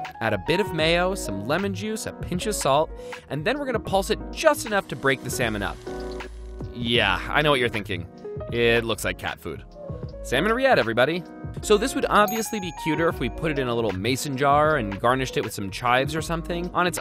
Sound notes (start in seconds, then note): 12.2 bell dings